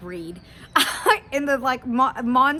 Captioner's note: chuckles